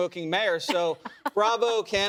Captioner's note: laughter